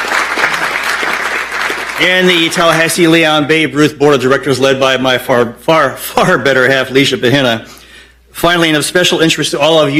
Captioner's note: applause